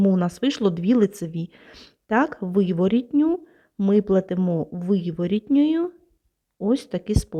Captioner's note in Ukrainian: сопіння